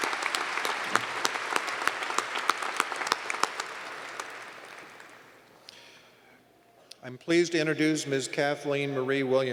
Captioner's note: applause